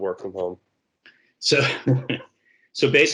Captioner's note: chuckles